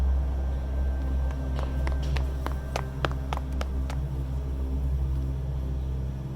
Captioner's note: hurried footsteps clack